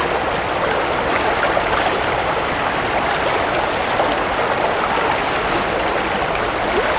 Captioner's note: birdsong, running water